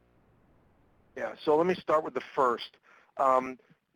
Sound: voiceover

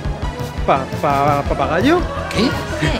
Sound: stutters

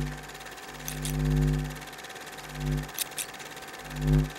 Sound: scissors snip

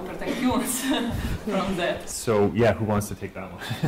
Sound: laughing

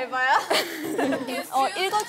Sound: laughs

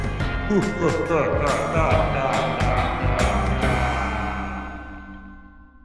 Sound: spooky laughter

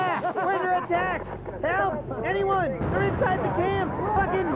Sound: screaming and chaos; explosions

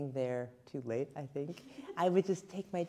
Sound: laughing

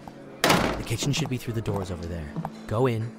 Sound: loud music and chattering; footsteps

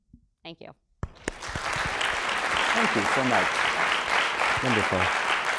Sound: applause

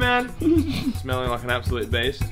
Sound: laughs

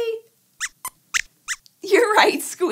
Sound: squeaks squeaks

